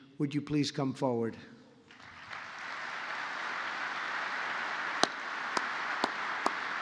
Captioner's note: applause